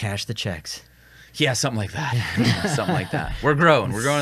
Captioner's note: all chuckle